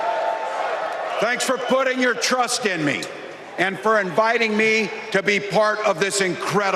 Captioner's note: cheers and applause